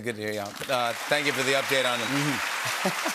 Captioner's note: applause